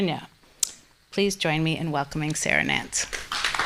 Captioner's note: clapping